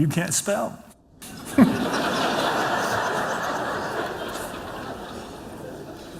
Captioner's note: laughter